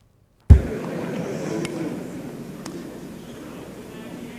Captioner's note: audience murmuring